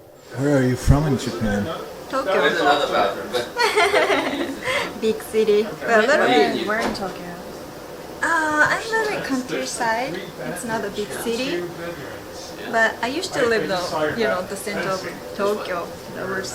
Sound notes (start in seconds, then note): 3.4 laughing